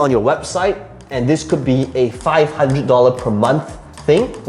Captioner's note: tapping marker